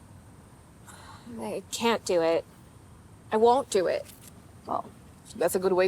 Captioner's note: sighs